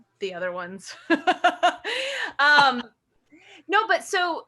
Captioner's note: laughs